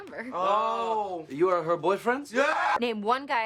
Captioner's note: TROY and ABED scream in frustration